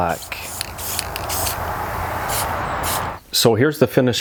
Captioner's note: spray hissing